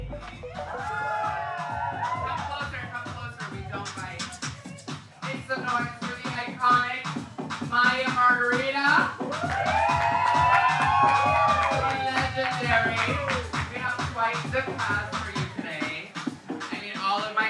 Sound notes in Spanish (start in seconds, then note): 0.4 vítores y aplausos; 9.0 aplausos y vítores